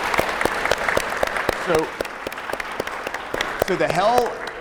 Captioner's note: audience applauding